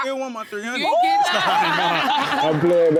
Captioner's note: laughing